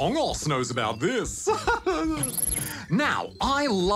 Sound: laughs

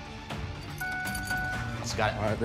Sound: dinging

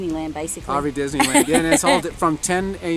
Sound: laughs

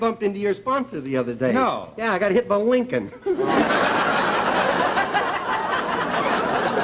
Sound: laughter

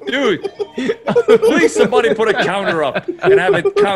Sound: laugh

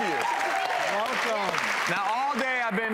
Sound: audience applause

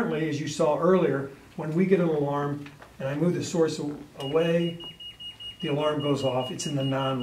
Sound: alarm beeps

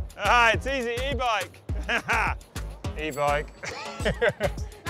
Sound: laughs

